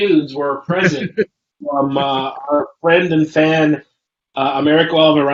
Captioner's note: laughs